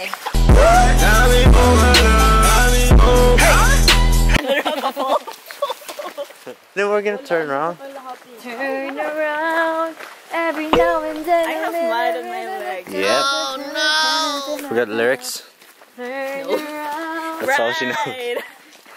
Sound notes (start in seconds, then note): 4.4 laughs